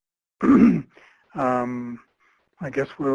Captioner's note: clearing throat